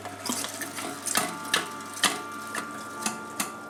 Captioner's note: meat sloshes in grinder